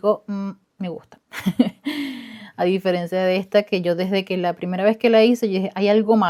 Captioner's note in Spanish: risas